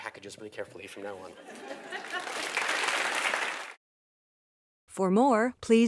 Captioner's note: laugh; applause